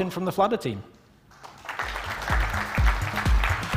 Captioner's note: applause